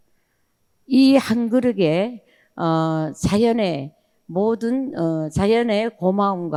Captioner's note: speaking in foreign language